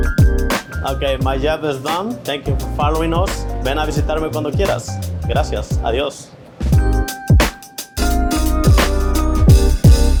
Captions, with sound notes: Okay, my job is done. Thank you for following us. [speaks Spanish] [upbeat, smooth music]